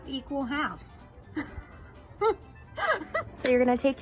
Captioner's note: laughing